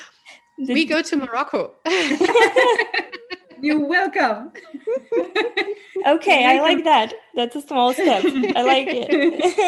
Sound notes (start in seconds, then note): 1.9 laughing